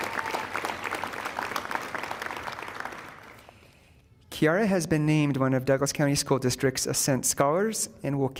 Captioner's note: applause